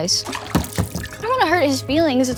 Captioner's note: water splashing